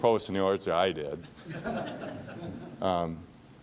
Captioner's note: laughing